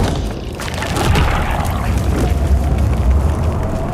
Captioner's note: creatures roaring